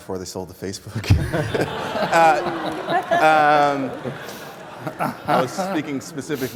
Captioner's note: laughter